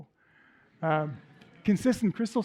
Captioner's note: laughter